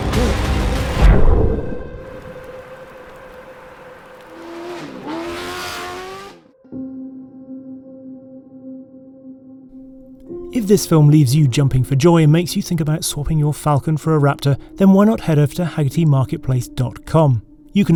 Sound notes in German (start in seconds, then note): 0.0 dramatische Musik; 4.7 Motorheulen; 7.0 sanfte Musik